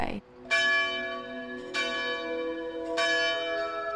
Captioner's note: church bells